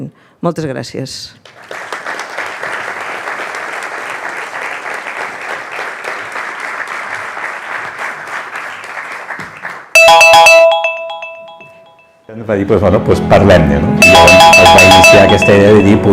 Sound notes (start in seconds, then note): 1.4 audience applauding; 10.2 phone ringing; 10.2 speaks in foreign language